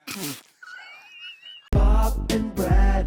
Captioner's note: chuckling